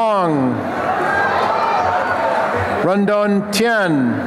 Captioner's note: applause and cheering